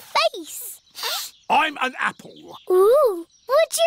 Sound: sniffs

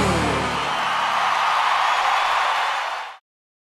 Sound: audience cheers

